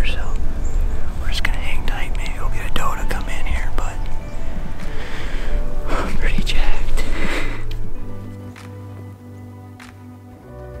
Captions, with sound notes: so we're just gonna hang tight. Maybe we'll get a doe to come in here but I'm pretty jacked. (laughs) (gentle music)